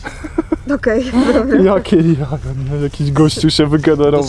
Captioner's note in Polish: śmiech